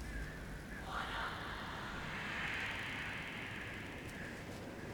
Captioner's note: ghosts whispering